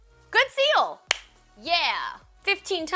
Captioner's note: claps